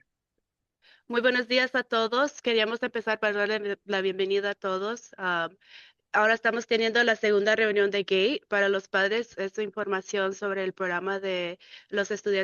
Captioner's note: speaking in Spanish